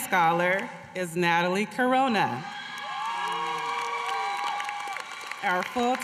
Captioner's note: applause